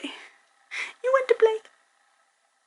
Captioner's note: none